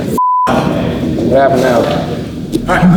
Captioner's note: beep